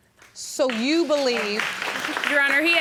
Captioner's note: audience applauding